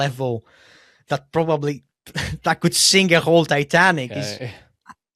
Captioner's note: laughs